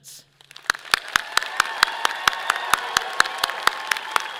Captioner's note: audience applauding